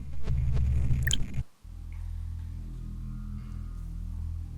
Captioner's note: phone beeps